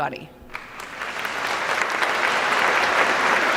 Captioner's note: applause